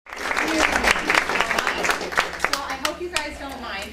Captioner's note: applause